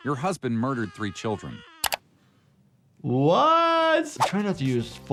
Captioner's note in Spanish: none